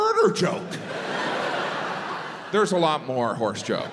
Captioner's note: crowd laughs